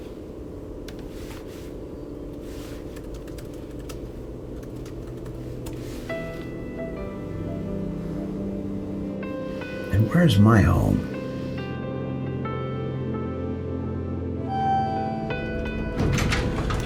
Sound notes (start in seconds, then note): 0.8 keyboard keys clacking; 5.9 gentle music; 14.5 elevator beeps